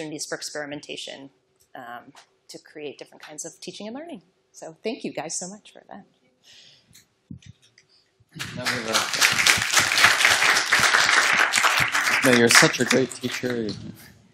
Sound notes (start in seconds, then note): 8.4 applause